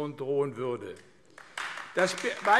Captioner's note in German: Beifall AfD